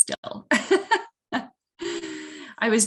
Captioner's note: laughs